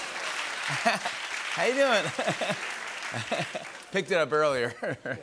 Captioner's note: laughing